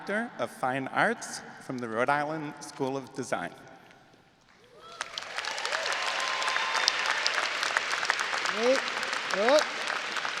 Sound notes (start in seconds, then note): 4.6 audience applauding and cheering